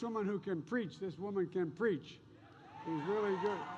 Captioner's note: applause